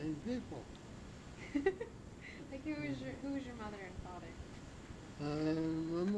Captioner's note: laughs